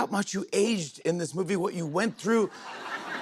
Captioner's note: laughter